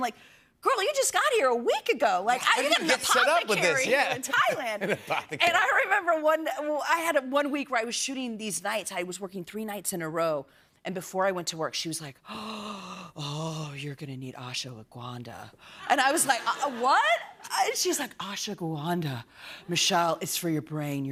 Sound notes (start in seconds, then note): 12.3 gasps